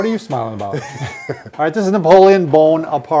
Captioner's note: laughing